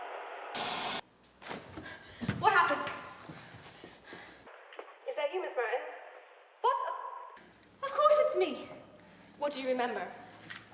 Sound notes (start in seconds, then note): none